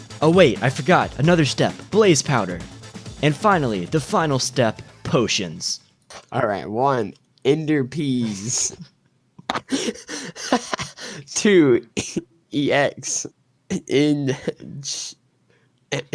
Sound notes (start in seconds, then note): 9.4 laughs; 12.3 chuckles